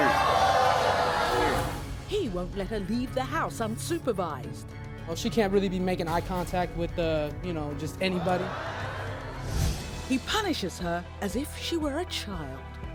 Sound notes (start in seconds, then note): 0.0 crowd booing